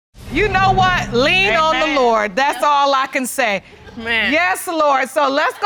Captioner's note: audience laughs